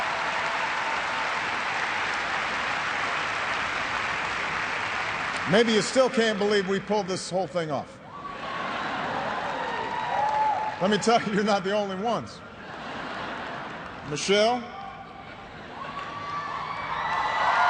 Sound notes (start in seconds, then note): 3.5 cheers and applause